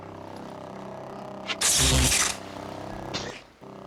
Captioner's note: whoosh; electricity crackles